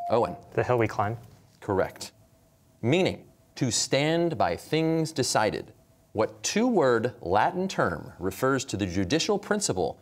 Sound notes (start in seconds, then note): none